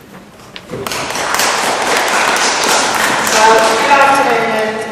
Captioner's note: applause